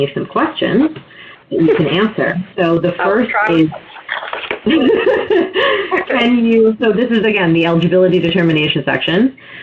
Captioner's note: laughs